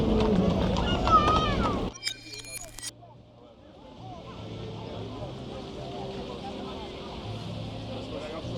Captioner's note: people chattering